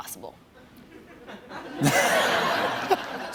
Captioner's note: laughter